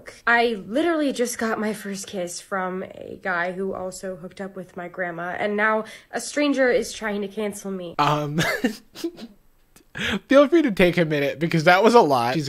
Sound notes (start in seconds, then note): 8.1 giggles